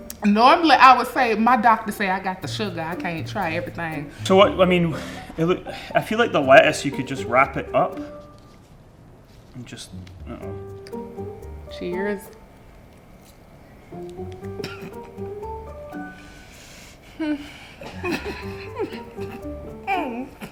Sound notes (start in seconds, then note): 14.8 laughs